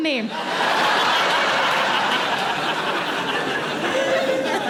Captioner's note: audience laughing